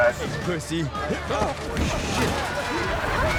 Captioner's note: grunts